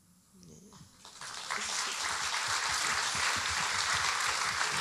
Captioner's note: audience applauding